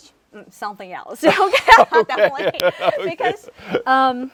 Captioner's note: laughing